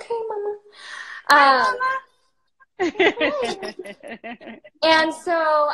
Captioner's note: laughs